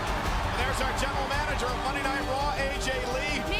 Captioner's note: crowd cheering